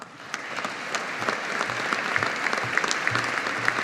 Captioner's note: audience applauding